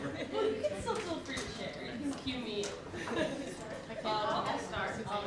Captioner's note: excited conversations